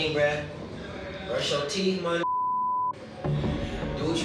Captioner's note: beep